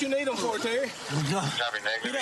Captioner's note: panting